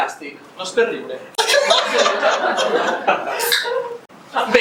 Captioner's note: laughs